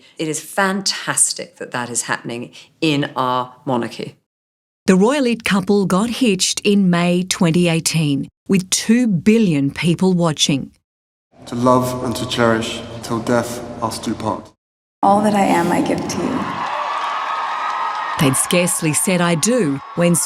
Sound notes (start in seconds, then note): 15.6 cheering